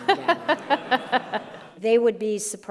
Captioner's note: group laughing